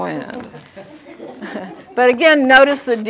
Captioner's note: audience laughing